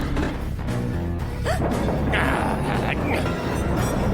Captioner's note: gasps